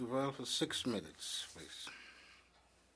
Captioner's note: speaking in French